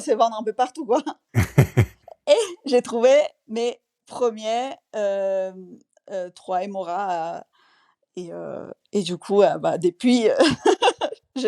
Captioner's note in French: rires